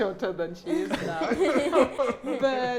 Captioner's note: both laughing